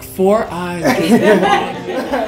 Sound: laughing

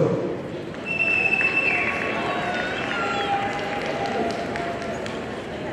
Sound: audience cheering

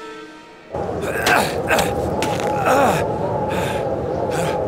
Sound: panting

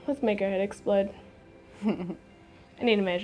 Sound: giggling

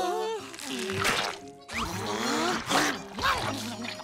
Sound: grunting

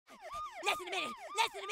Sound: police sirens

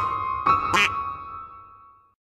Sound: quack

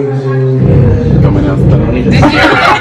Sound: laughs

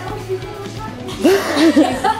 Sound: laughs

